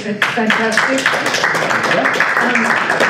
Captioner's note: audience applauds